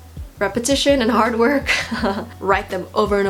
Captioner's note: laughs